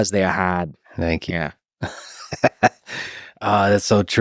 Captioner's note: Lex laughs